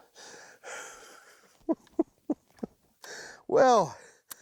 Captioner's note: chuckles